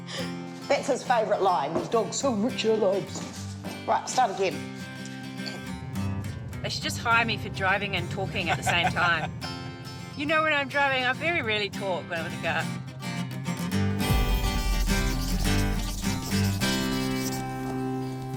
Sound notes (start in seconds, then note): 0.0 laughs; 14.1 upbeat music; 14.1 pen scratches